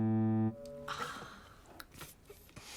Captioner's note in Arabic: آهات طفيفة